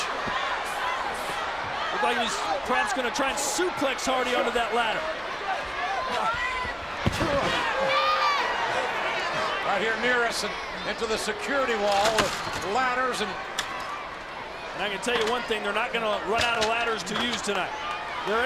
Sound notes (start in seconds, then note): 6.7 head thuds